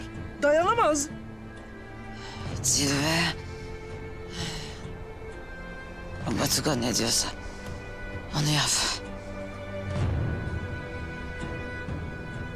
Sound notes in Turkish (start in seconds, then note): 2.1 Nefes veriyor; 4.1 Nefes veriyor; 8.8 Fısıldıyor